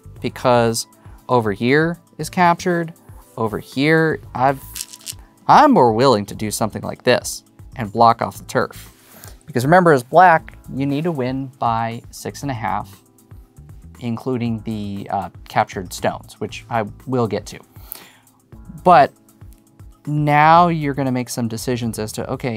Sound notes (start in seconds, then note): 4.6 stones rattling